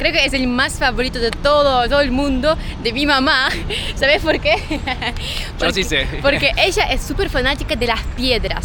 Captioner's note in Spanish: risas